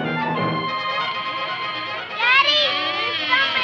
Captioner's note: door opening